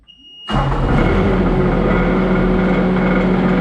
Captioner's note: engine roars